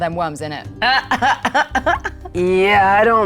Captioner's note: Mayanna chuckles